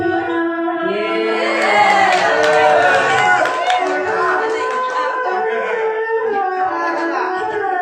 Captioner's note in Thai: ปรบมือ